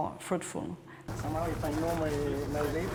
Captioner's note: indistinct chatter